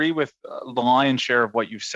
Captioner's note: speaking French